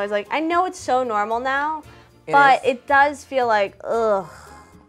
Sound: groans

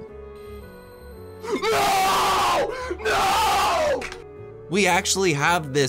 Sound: unholier screams

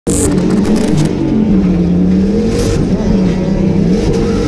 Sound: car engine revving

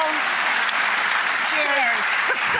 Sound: audience applauds

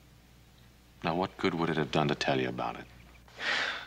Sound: none

